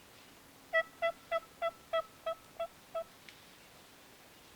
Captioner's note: turkey calling